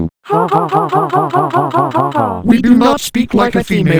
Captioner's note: Martin and Martha laughing again